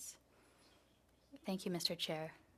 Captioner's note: speaking French